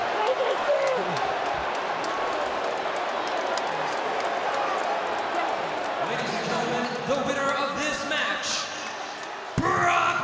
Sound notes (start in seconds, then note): 0.0 crowd clamoring